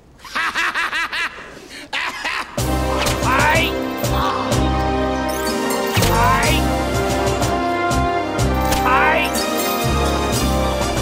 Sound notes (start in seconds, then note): 0.2 laughs; 3.0 whip cracks; 3.1 groans; 5.8 whip cracks; 8.6 whip cracks